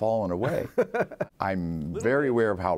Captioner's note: laughter